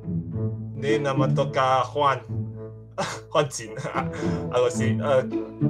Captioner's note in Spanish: Hablando en náhuatl